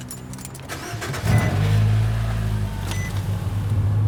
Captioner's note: engine revs